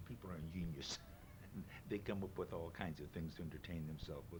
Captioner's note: chuckles